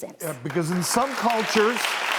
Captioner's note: clapping